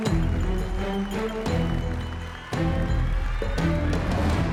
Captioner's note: cheering and applause